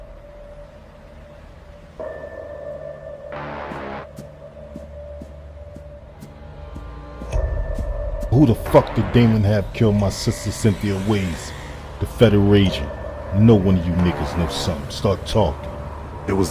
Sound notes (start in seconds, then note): 2.4 tense music; 3.6 footsteps fall